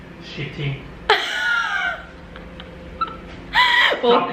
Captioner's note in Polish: Śmiech